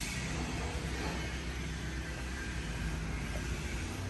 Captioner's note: machine rumbling